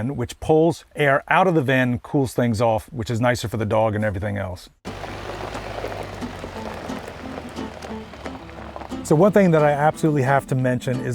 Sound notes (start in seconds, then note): 4.8 gravel crunching; 6.1 lighthearted music